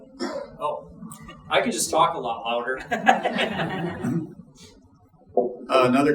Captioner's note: laughing